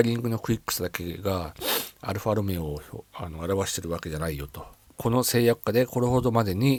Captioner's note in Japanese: 鼻息